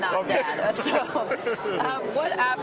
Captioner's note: laughs